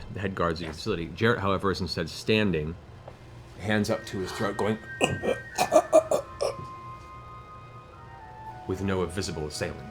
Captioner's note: choking sounds